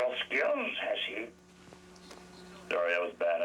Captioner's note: mimicking yoda